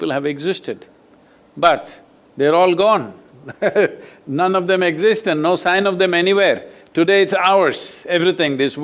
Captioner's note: laughs